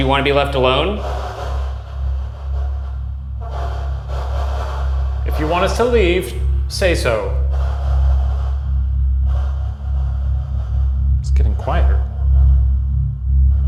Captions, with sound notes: Do you wanna be left alone? (static buzzing) - If you want us to leave, say so. (tense foreboding music) It's getting quieter.